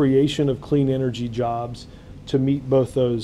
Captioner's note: none